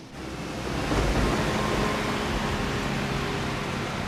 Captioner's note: thunder rumbling